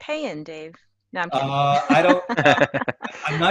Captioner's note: laugh